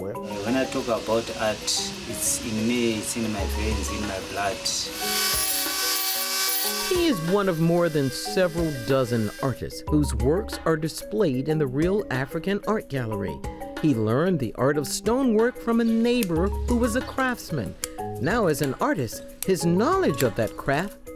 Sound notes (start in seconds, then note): 5.0 drill buzzing